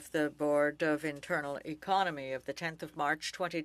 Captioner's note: speaking French